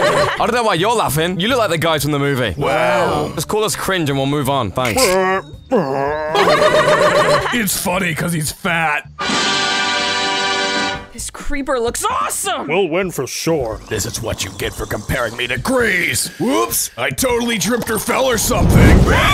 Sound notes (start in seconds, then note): 4.8 laughing; 9.2 trumpet call; 13.6 pig snoring; 19.1 pig screaching